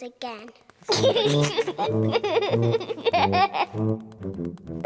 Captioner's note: giggling